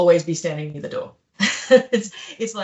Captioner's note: laughs